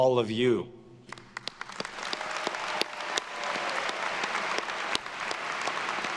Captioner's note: attendees cheering and applauding